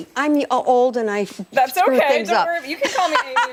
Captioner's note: laughter